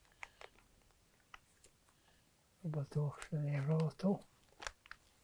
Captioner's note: hebrew